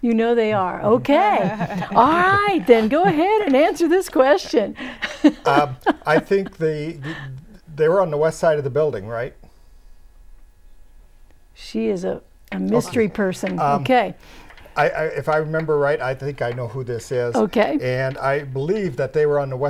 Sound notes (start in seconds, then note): 1.2 laughing